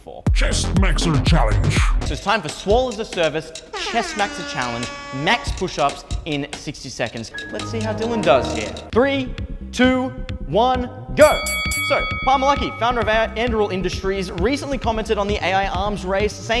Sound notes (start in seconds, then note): 3.7 air horn